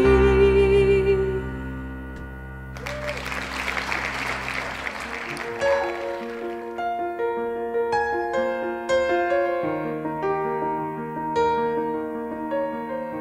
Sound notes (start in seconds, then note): 2.7 clapping; 4.5 piano music